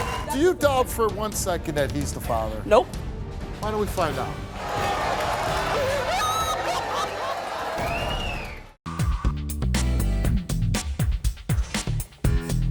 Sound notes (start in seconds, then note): 4.4 crowd roars; 5.8 woman wails